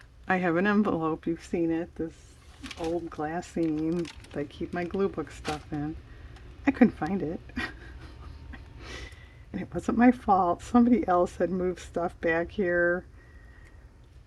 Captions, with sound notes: I have an envelope-- you've seen it-- this old glassine, I keep my glue book stuff in, I couldn't find it (laughs) it wasn't my fault, somebody else had moved stuff back here,